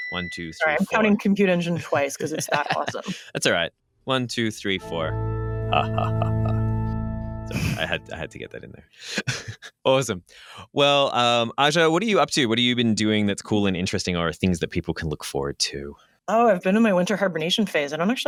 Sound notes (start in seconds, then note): 1.7 laughs; 4.7 organ note